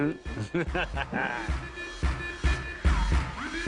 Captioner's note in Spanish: Risas